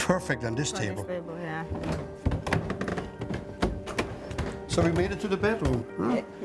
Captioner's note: shuffling